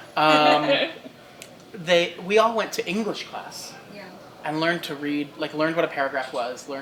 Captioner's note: laughter